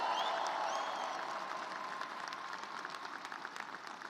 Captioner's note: cheers and applause